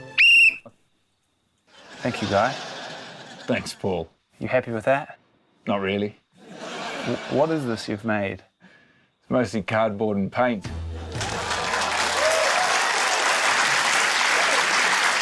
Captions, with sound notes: - (BLOWS WHISTLE) Thank you, Guy. - Thanks, Paul. - You happy with that? - Not really. (LAUGHTER) - What is this you've made? - Mostly cardboard and paint. (CHEERING, APPLAUSE)